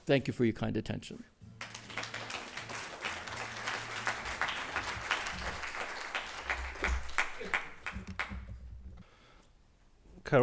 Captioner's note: applause